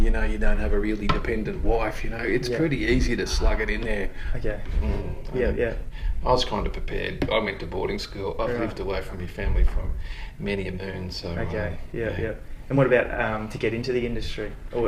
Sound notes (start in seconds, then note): none